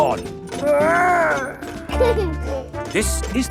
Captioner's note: giggles